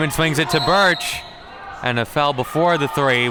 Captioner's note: whistle blows